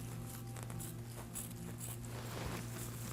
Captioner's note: snipping